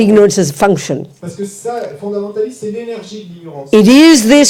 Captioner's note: French